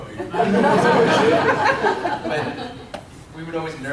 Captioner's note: class laughs